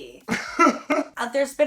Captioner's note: laughing